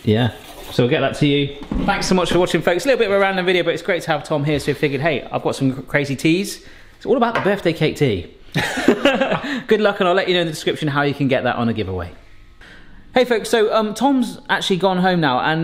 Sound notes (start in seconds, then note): 8.5 both laughing